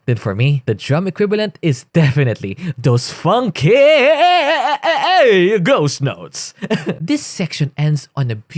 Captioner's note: cough